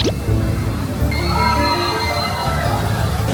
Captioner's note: screaming